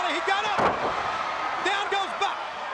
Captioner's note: body thumping